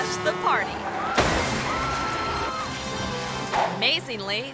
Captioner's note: truck crashes